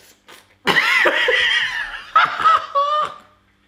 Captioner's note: laughs